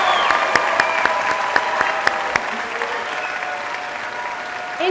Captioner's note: applause